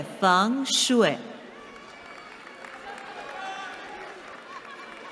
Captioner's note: applause